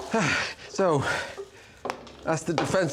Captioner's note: exhales